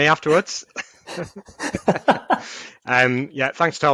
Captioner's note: both laughing